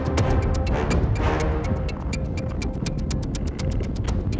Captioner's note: ground rumbling